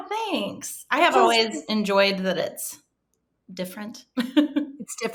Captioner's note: chuckling